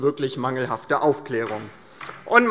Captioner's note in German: Beifall DIE LINKE